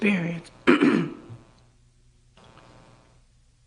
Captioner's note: cough